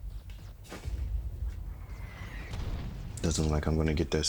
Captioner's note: distant gunfire popping